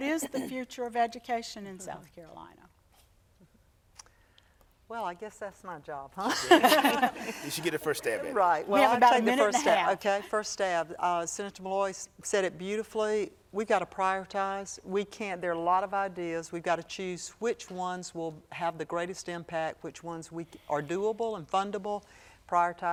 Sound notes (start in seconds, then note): 6.2 laughter